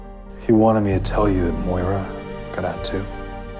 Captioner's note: voiceover